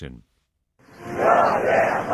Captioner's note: chanting